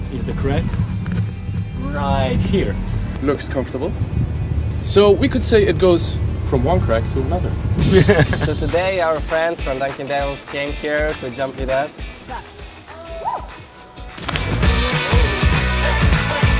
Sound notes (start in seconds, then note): 7.8 laughter; 13.5 rock music; 14.1 splash